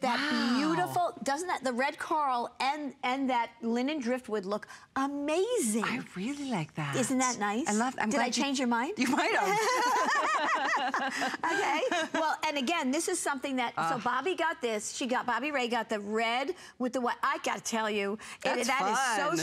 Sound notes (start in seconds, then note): 9.3 laughter